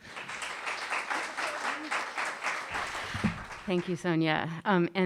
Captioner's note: audience applauding